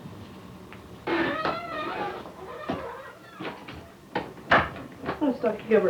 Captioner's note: door squeaks, footsteps